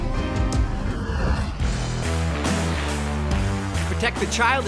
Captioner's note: ship engine